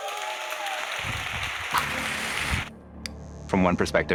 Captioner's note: audience applauds